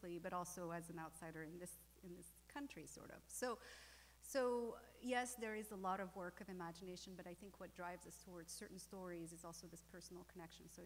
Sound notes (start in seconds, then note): none